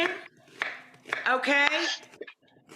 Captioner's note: knife chopping